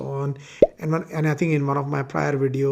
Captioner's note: bubble popping